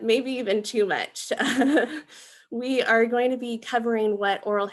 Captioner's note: laughing